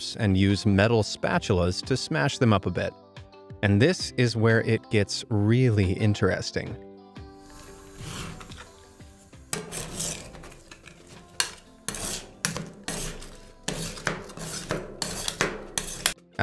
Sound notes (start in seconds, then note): 9.5 metals clanging